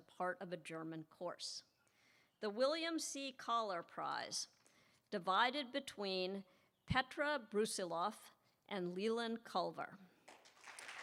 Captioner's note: applause